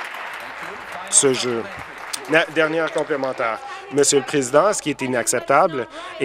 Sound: applause

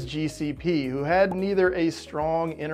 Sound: logo pops

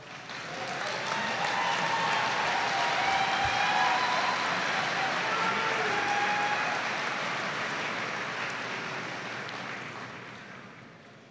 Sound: audience applauding

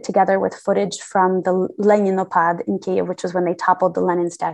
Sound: non-english

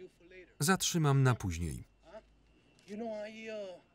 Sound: speaking in a foreign language

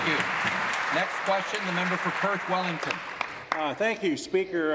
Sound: applause

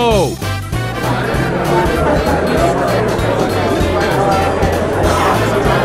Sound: people chattering

